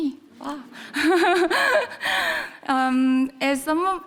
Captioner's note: audience laughs; chuckling